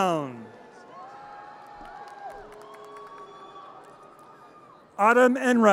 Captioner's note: audience cheers and applause